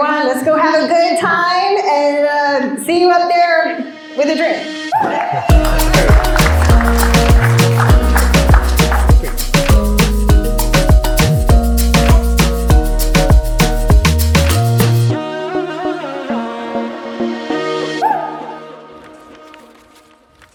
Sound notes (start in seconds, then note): 5.2 applause